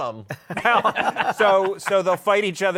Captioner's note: laughter